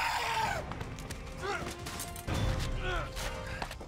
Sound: screaming; grunting

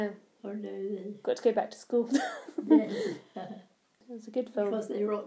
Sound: laughs

